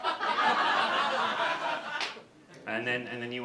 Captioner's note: audience laughter